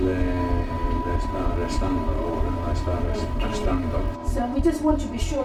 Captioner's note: speaking foreign language